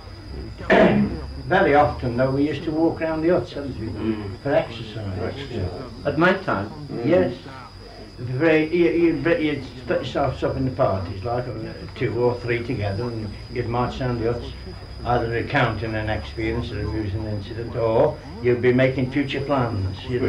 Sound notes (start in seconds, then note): 0.1 cough; 4.3 noise of agreement